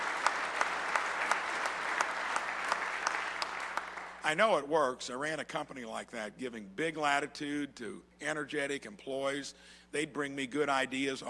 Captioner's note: applause